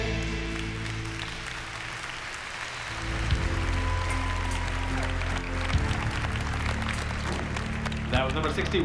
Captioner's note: applause